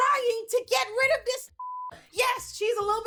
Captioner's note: beep